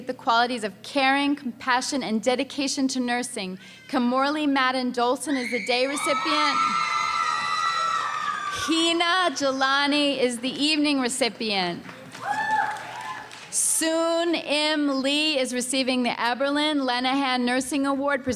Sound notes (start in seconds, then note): 5.3 loud cheering and screaming